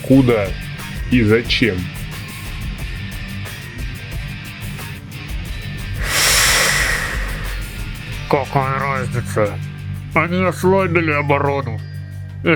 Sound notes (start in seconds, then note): 1.2 heavy breathing through gas mask